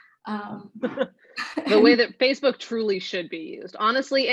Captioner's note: laughing